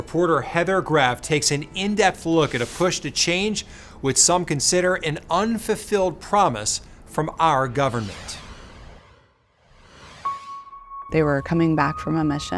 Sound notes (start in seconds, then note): 7.8 logo whooshing; 10.2 slow somber music